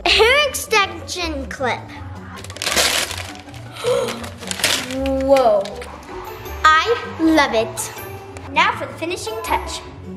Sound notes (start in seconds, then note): 2.4 paper ripping; 3.7 child gasping